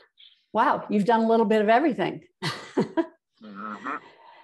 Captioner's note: laughs